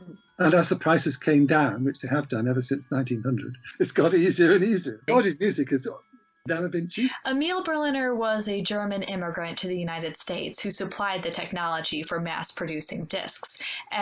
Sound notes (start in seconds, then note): 3.6 laughs